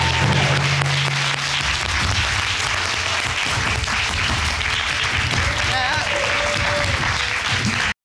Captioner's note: audience applauding